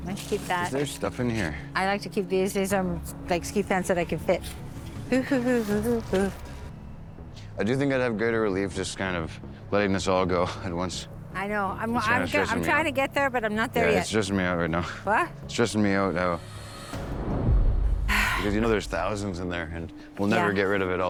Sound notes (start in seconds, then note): 4.5 humming; 18.0 sighs